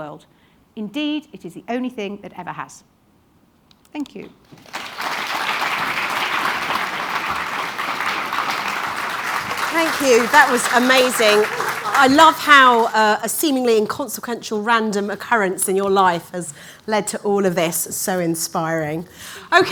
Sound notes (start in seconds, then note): 4.5 audience applauding